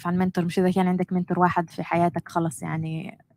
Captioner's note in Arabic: لغة أجنبية